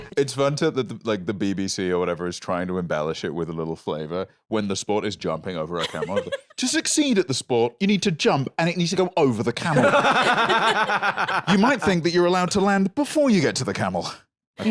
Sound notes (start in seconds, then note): 9.6 others laughing